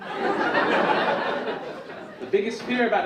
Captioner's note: audience laugh